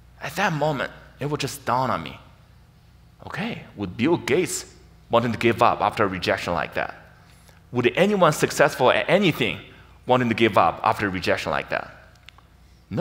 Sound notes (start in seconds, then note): none